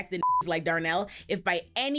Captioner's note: beep